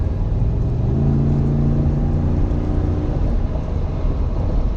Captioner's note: car accelerating